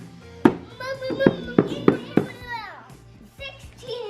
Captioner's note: drum beats; mumbles